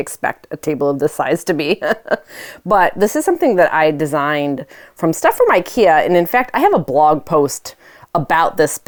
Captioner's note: laughs